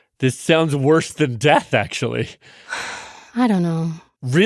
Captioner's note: sighs